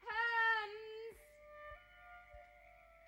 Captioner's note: none